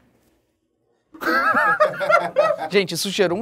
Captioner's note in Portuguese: risadas